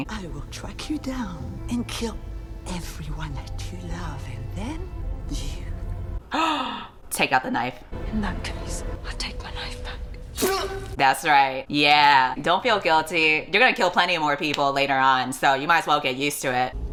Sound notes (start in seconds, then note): 6.3 gasps